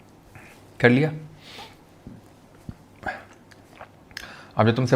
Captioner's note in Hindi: नाक से की जाने वाली आवाज़